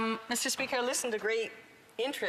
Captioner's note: speaking French